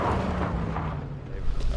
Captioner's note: car engine noise